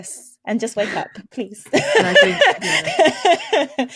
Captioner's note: laughs